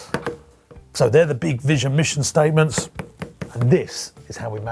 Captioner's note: thumps